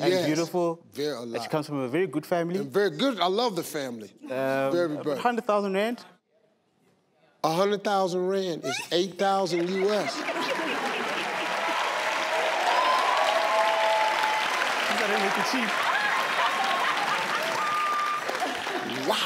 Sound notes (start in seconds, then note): 10.2 audience cheering; 14.9 audience laughing